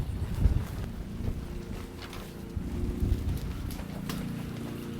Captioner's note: lawn mower mowing